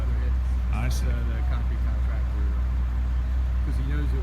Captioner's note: construction noises